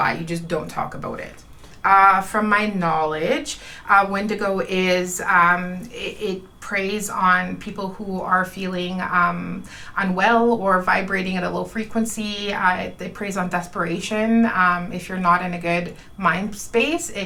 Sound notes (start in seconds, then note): none